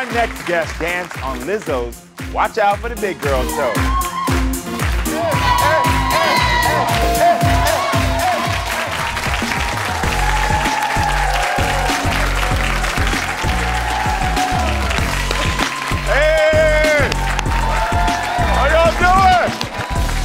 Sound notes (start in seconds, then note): 8.4 audience applauds; 8.4 upbeat music